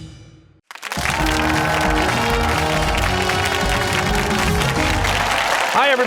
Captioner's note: cheers and applause